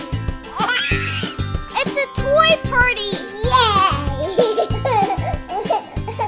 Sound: baby laughter; children laugh

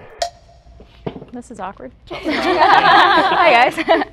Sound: dramatic riff; group laughing

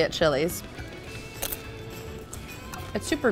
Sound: chip crunching

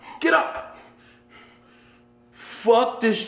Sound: panting

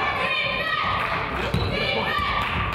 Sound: claps

